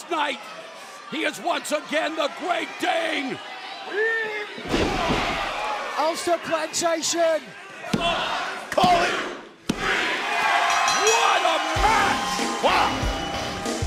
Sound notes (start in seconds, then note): 10.3 crowd cheering; 10.6 bell ringing